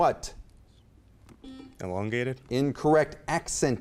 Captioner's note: beep